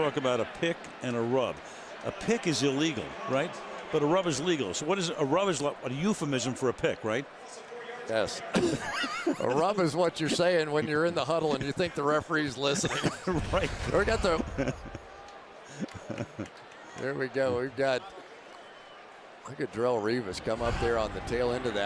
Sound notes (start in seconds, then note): 8.5 laughter